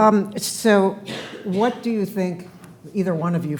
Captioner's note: attendee coughing